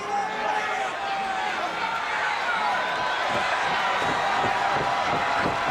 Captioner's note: crowd chattering